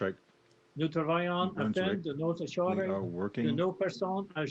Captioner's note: speaks French